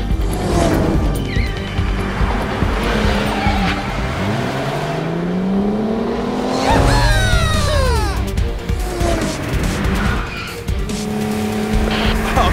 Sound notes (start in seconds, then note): 0.7 screeching tires; 6.5 cheering; 9.2 engines revving